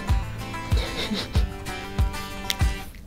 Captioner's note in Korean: 웃음